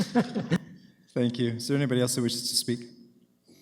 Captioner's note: laughter